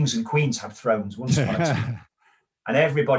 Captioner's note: laughs